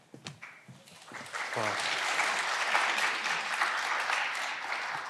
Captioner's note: candidates clapping